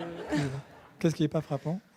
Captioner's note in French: rires